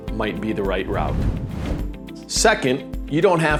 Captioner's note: video graphics whooshing